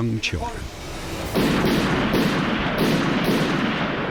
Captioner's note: gunshots